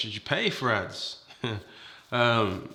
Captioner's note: chuckles